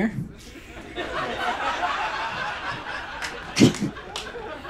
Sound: audience laughs

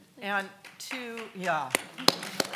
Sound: clapping

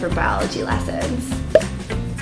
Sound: pop

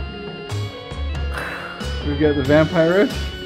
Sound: light halloween music; growls softly

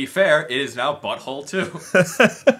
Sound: laughs

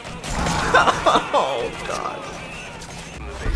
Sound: extremely painful laugh

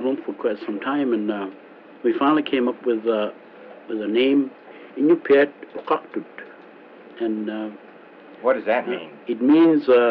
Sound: iñupiaq language

